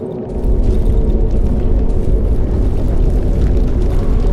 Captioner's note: earth rumbling